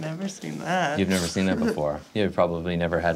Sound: chuckles

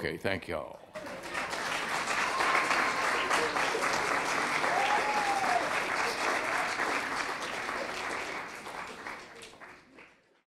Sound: applause

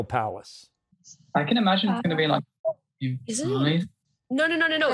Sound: audio breaks up

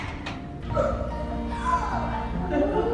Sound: children gasping

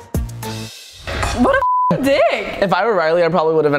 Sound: beep

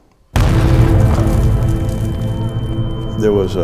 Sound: landmine blast

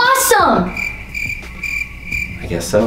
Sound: crickets

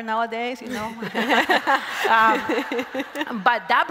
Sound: crowd laughs

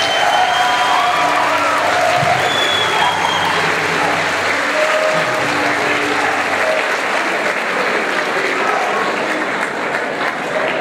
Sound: cheering and clapping

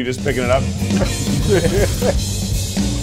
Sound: laughs; high tempo music

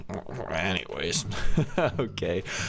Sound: laugh

